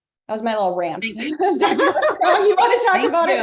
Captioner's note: laugh